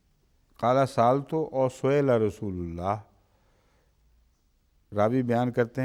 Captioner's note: Arabic